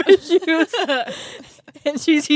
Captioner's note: both laughing